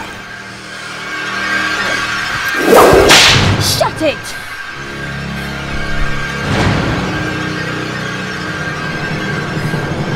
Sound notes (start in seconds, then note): 1.1 dramatic tense music; 2.8 whip cracking loudly; 4.9 dramatic tense music